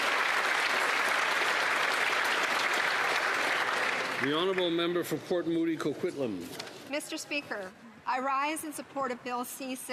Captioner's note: applause